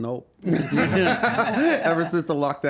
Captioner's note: laughing